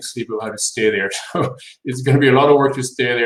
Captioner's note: laughs